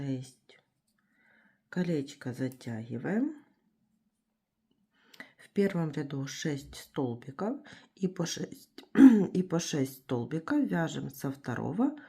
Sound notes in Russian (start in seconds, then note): 8.9 откашливается